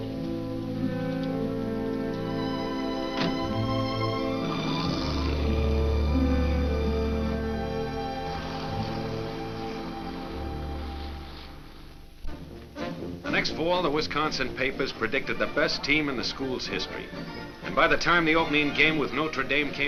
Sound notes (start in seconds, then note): 3.1 car door closes; 4.7 car drives off